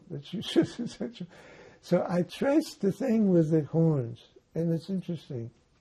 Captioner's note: laughing